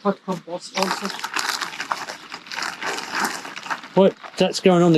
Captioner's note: plastic rustling